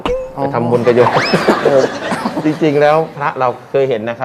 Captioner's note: laughing